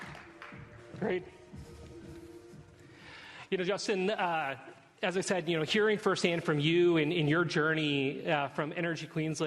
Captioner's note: applause